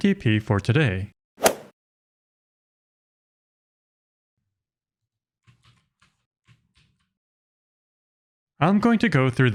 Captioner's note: golf ball hit sound effect